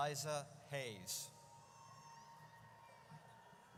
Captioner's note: audience cheers